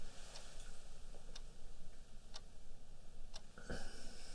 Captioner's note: clock ticking